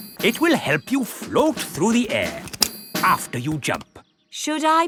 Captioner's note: clicking